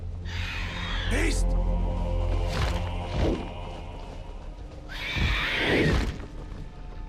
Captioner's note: creatures screeching